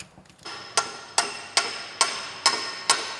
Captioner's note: banging